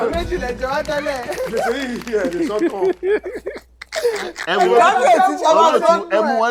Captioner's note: everyone laughs